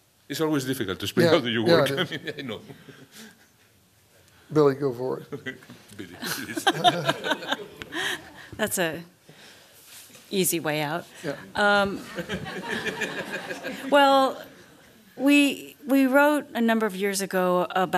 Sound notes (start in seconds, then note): 1.8 laughter; 6.1 laughter; 11.9 laughter